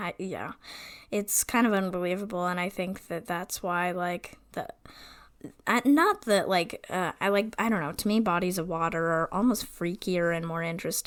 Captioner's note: stammering